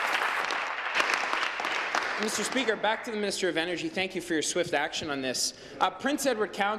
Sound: applause

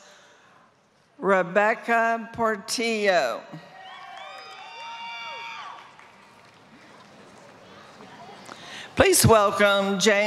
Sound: applause

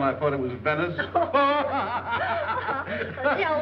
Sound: laughing

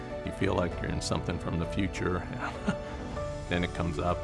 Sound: chuckles

